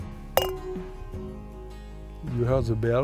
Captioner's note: glasses clink